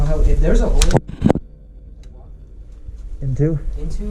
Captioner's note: thumps and bangs